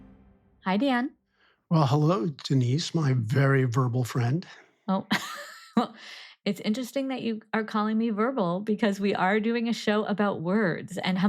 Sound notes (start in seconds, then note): 5.5 laughs